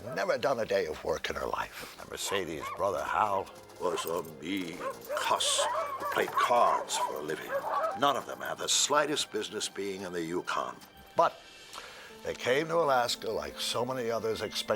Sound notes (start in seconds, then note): 7.4 dogs barking